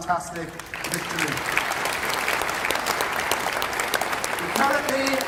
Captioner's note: applause